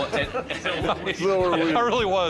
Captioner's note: laughs